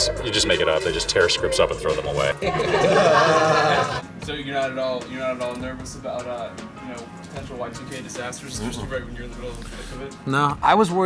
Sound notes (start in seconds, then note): 2.5 people laugh